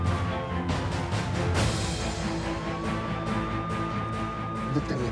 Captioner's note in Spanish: Sirenas